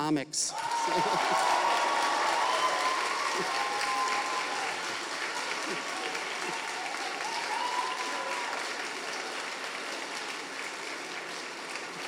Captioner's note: audience applauding